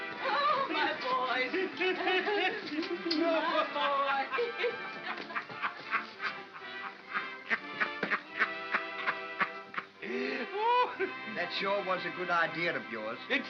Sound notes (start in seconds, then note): 1.4 Ollie laughs